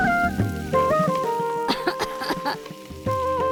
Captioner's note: coughs